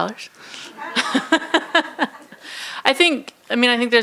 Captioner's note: laughing